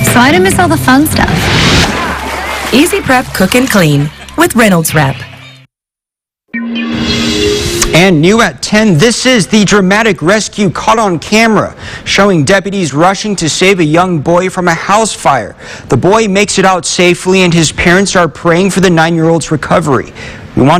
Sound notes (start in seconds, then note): 0.9 whoosh; 1.0 splash